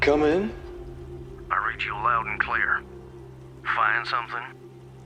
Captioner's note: radio